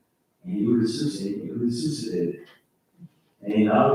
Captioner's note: faintly speaking